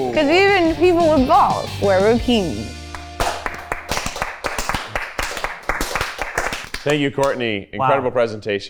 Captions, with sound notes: - Because even people with balls wear bikinis. (everyone clapping) - Thank you Courtney, incredible presentation.